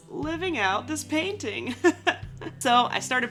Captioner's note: laughing